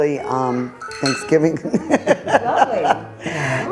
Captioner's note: laughs